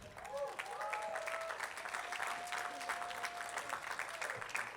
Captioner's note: attendees clapping